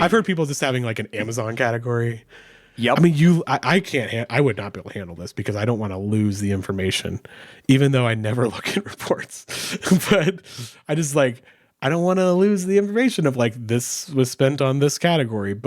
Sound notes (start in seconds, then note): 9.8 chuckles